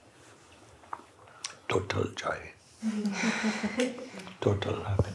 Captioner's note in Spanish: risas